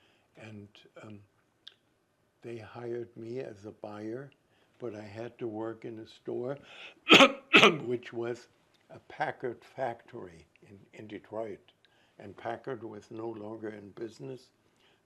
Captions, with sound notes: And they hired me as a buyer, but I had to work in a store, [COUGHING] which was a Packard factory in Detroit, and Packard was no longer in business.